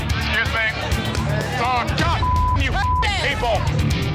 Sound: beep

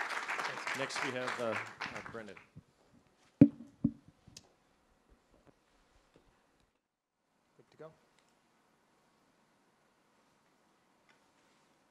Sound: off microphone

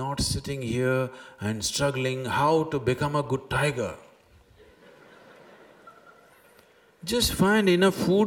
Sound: laughter

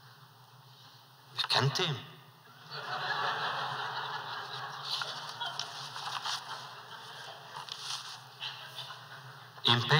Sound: laughter

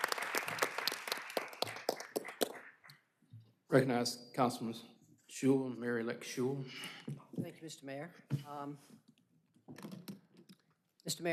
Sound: applause

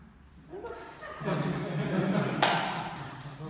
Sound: laughing

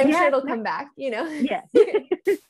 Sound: both laughing

